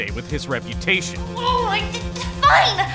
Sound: growl

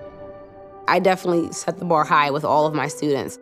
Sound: voiceover

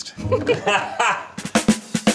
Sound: laugh; upbeat music

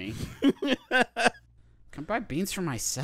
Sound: laughing

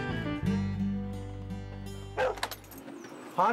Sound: dog barks

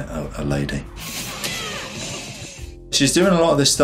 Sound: air whooshes; upbeat instrumental music

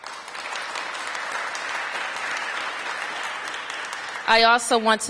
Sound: applause

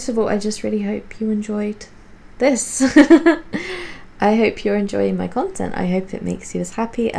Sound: laughs

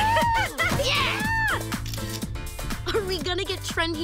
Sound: phone camera shuttering

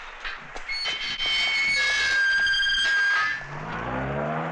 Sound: door Opens

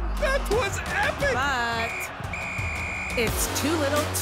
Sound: whistle blowing

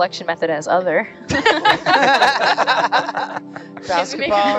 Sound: everyone laughs

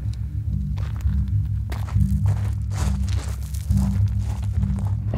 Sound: footsteps crackling

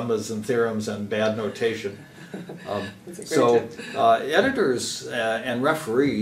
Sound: laugh

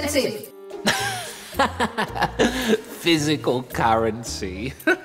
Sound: laughs

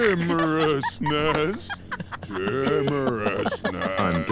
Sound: laughing

